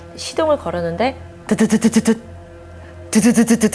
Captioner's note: grrr-grrr-grrr